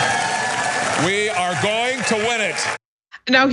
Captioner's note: applause